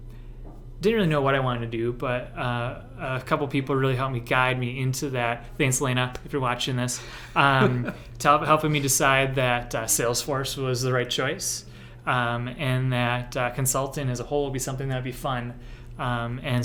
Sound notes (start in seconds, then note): 7.2 laughter